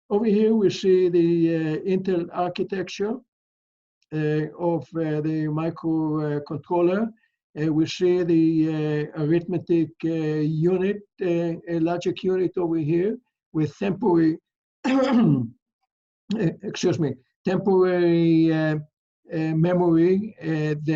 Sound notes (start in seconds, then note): 14.8 coughs